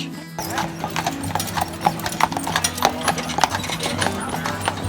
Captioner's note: horse shoes clopping